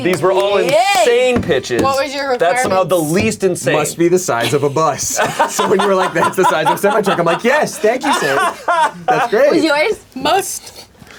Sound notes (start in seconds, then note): 4.4 laughing; 8.6 continues laughing